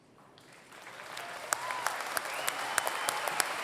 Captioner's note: applause